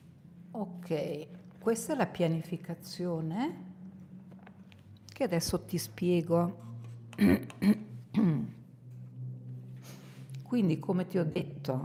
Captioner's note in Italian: schiarire la voce